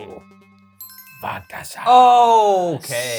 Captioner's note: list chimes